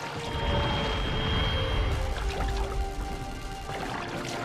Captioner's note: suspenseful music; atmosphere whooshing